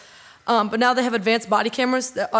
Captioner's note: none